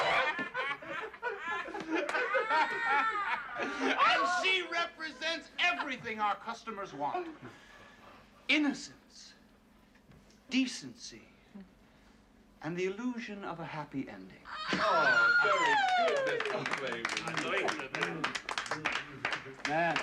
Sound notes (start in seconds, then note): 0.0 Все смеются; 15.0 Визжит